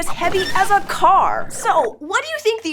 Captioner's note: squeaks squeaks